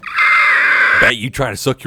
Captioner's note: screaming